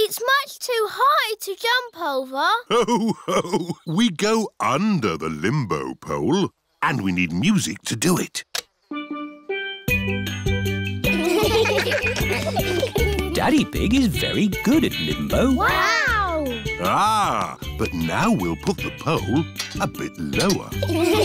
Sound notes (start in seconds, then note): 2.6 laughs; 8.9 steel band; 11.1 laughter